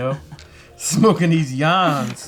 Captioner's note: laughs